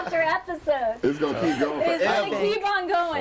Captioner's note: overlapping chatter